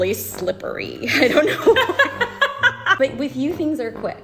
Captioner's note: both laugh